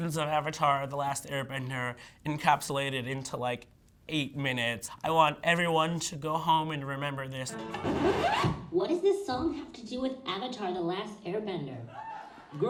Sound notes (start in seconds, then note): 7.5 record scratching